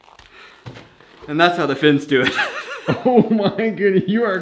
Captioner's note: laughs